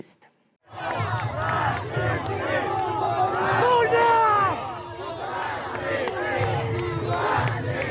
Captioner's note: people chanting